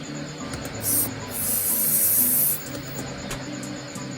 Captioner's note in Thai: เสียงพ่นสเปรย์